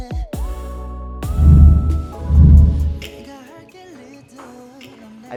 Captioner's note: camera swooshes